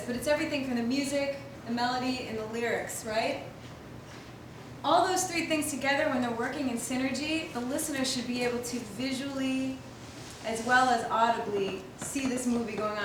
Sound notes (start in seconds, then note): none